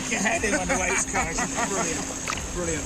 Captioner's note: laughing